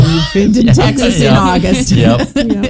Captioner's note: chuckling